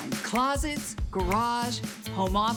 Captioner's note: finger snap